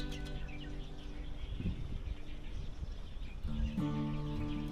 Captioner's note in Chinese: 还可以听到鸟语声